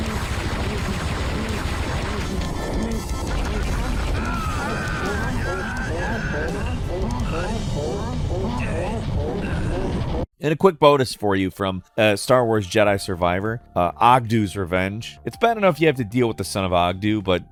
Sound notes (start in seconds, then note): 3.8 character groans